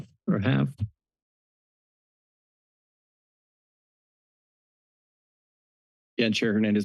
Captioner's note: silence